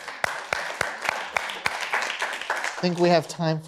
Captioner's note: applause